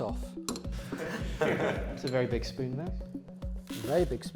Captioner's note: laughter